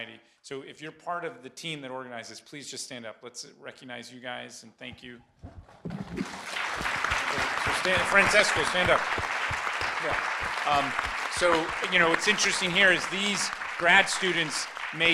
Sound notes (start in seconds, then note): 6.6 applause